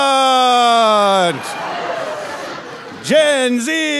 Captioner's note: audience laughing